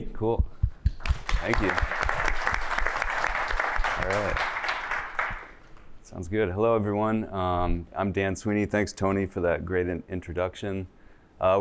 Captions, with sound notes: Cool. Thank you. [APPLAUSE] All right, sounds good. Hello, everyone. I'm Dan Sweeney. Thanks, Tony, for that great introduction.